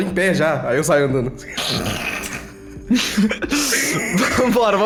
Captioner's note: laughs